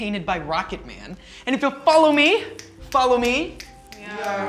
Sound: snapping

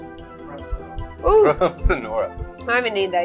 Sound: laughs

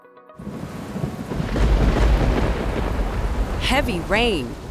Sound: rain and thunder

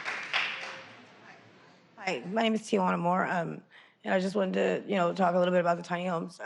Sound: applause

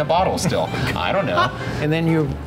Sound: laughs

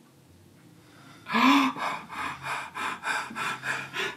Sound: panting

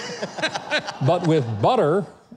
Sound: laughs

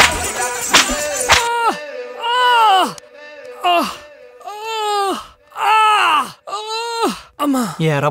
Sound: groans

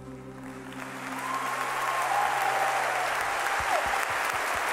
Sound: audience applauding

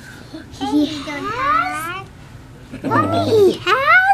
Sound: gasps

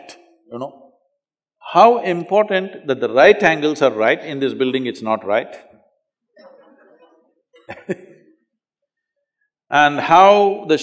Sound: laughter

